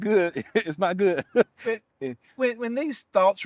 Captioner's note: laughter